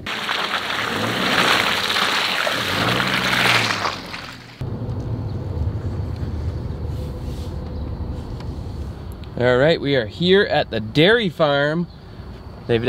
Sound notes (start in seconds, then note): 0.0 tires thunking on stones; 0.3 truck engine revving; 4.7 roaring pavement